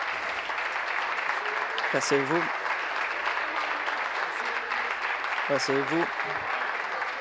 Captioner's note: applause